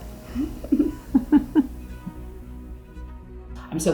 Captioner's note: laughing